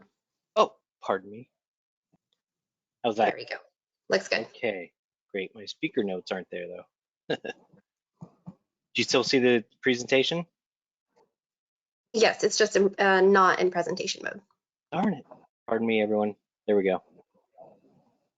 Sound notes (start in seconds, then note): 7.3 laughter